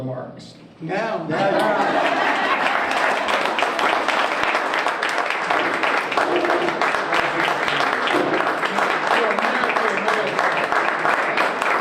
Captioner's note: applause